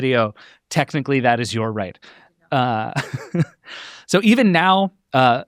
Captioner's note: laughs